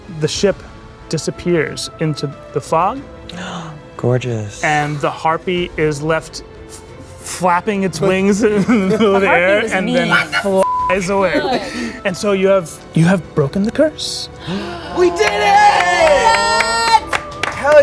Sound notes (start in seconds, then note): 10.6 beep; 15.1 clapping